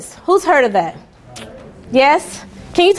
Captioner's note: students murmuring